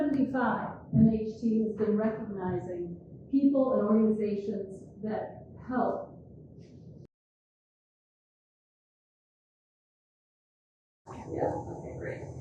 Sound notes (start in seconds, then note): 8.5 audio cuts out briefly